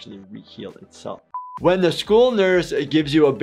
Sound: buzzer beeps

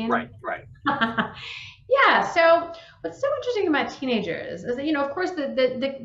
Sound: laughing

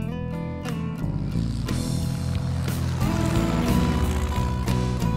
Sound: plane engine roars

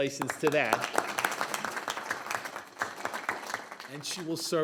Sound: board members applauding

